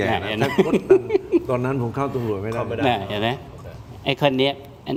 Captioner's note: laughs